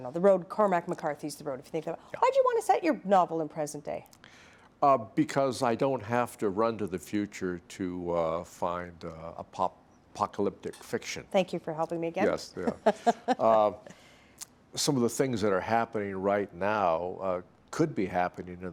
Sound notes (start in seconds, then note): 15.6 laughs